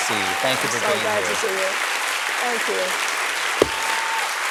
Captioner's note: applause